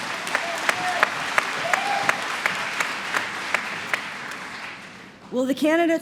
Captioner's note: applause